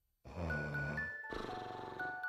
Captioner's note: snoring